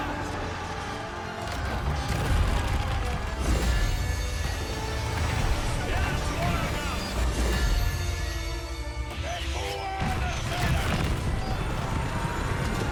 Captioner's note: soldiers yellg